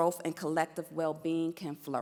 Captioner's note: none